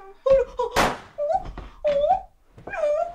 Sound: gun shot

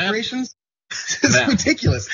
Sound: laugh

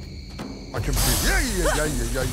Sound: hissing

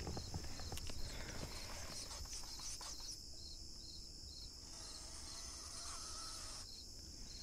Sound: strange scratching sounds

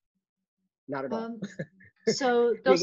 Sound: chuckling

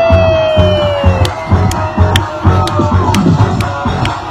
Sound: claps

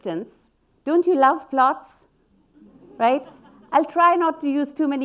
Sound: audience laughing

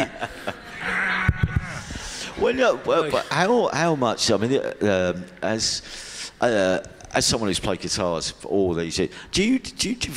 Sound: laughs

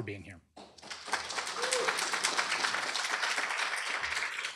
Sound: applause

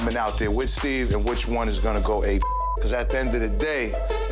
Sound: beep

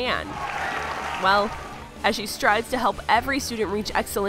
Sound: claps and cheers

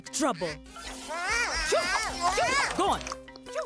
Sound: Bongalalas exclaiming

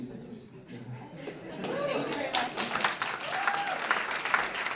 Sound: applause

